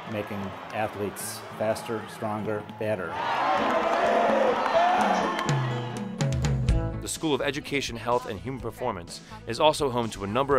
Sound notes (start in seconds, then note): 3.1 audience cheers; 7.1 voiceover